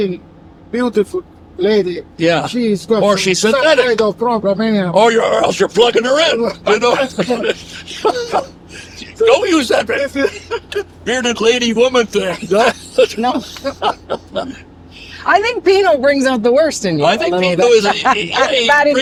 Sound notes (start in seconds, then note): 9.3 all laugh; 12.8 laughing